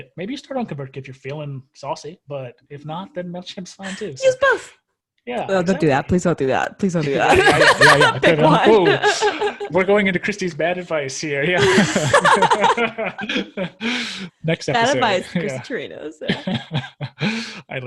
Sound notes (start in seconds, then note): 7.1 laughs; 11.4 laughs